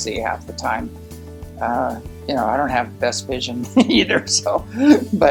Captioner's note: laughs